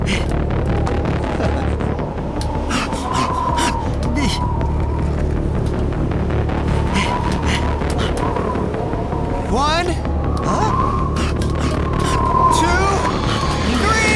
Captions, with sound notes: [panting] [wind whistling] -One... -Huh? Two... Three!